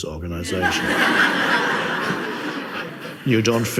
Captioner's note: audience laughs